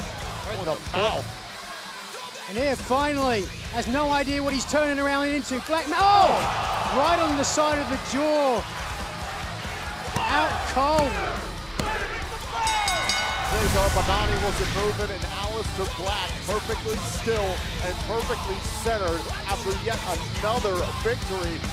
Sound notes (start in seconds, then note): 12.4 bell ringing